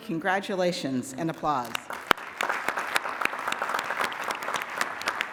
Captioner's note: applause